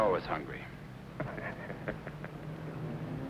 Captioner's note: chuckles